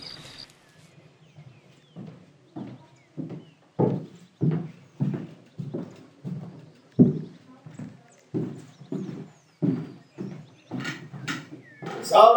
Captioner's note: steps hard